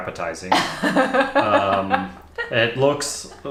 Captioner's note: laughs